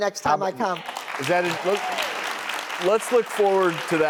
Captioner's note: crowd Applauds